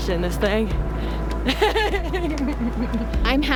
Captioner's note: laughs